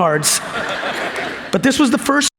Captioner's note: audience laughs